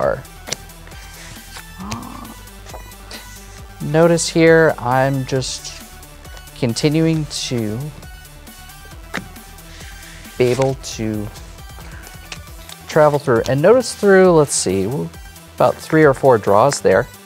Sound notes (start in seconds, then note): 0.4 cards slapping and sliding; 9.1 cards slapping on table